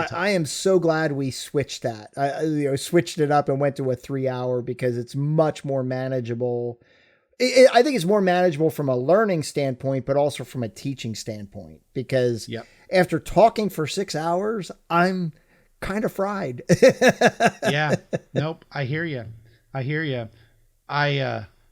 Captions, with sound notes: - I am so glad we switched it up and went to a three-hour because it's much more manageable. I think it's more manageable from a learning standpoint, but also from a teaching standpoint, because after talking for six hours, I am kind of fried. (laughs) - Yeah, no, I hear you. I hear you.